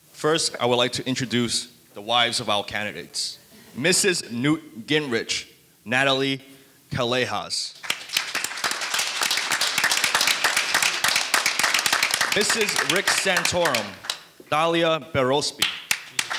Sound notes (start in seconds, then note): 7.8 audience applauding; 15.6 audience applauding